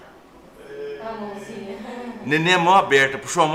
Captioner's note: laughs